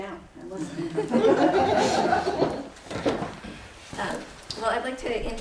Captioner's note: laughter